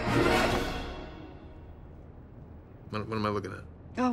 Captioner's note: none